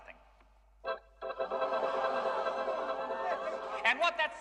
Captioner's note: Аудитория ахает